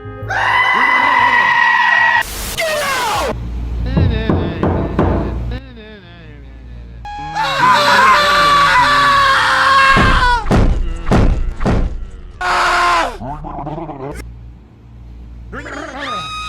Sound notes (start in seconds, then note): 0.2 extremely loud screaming noise three times; 4.0 bonk bonk bonk noises; 7.4 teacher screaming and smashes the table in rage